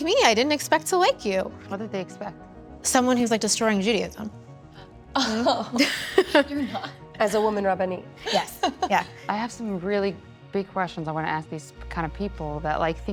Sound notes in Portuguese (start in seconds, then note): 5.2 risos